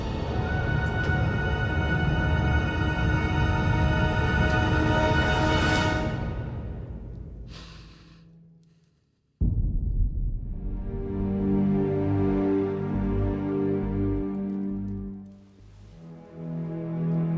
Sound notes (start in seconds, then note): 7.4 Cleopatra inhales; 10.8 gentle solemn music